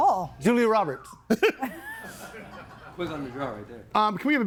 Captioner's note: group laughs